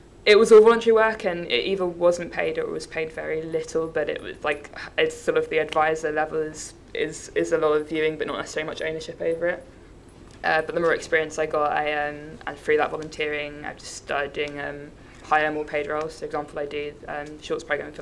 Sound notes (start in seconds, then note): none